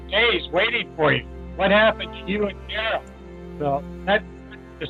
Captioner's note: static draws the speaker